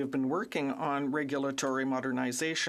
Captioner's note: speaking French